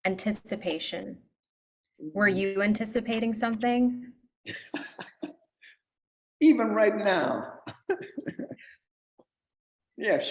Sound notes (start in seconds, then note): 4.5 laughs; 7.6 laughs